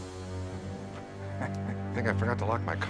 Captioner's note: sinister music; laughs